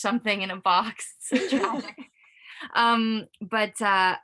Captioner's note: laughs